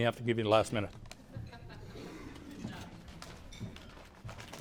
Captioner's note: polite chuckles